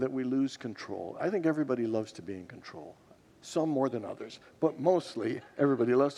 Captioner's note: congregants laugh